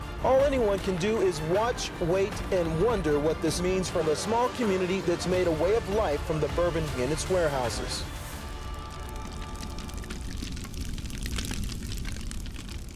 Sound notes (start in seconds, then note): 8.9 fire crackling